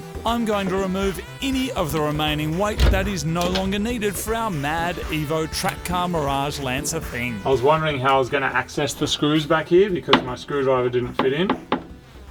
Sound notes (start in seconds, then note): 11.1 tapping